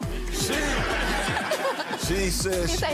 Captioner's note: audience laughing